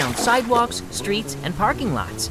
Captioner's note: water splashes